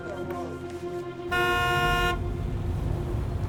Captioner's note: car horn honks